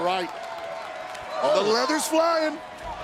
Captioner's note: applause